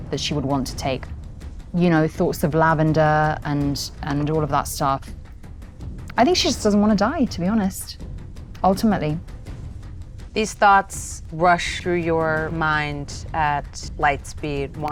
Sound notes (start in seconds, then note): none